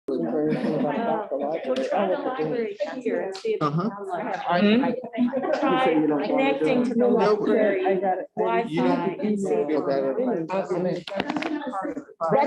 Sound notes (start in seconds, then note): 0.0 indistinct overlapping conversations